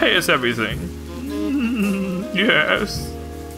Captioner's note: sort of giggles; smooth jazz